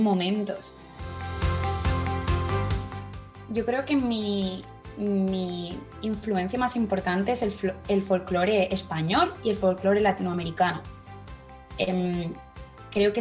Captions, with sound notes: [SPANISH] I believe that my most important influence is Spanish folklore and Latin American folklore. I think it is the music that has accompanied me throughout